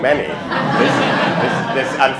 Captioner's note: laughter